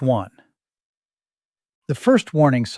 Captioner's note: pause